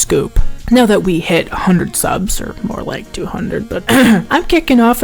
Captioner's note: clears throat